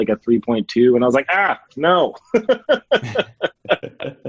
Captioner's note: laughs